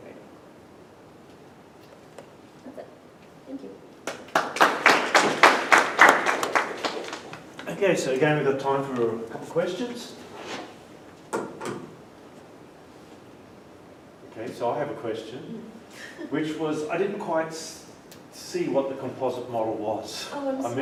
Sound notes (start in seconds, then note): 7.0 applause